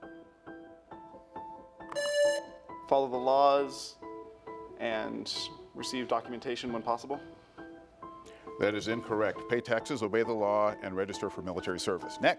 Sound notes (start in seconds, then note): 0.2 pensive music; 1.9 buzzer rings